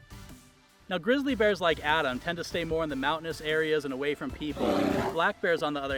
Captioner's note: bear growl